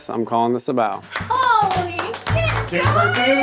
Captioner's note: hands clapping; playful music